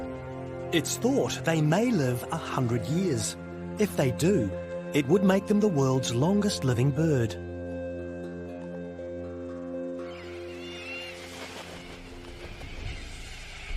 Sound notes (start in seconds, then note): 9.9 birds screeching